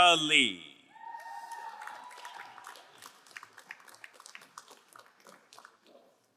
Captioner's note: crowd cheering and applauding